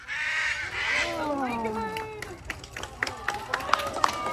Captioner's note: crowd applauds